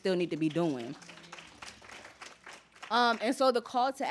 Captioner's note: applause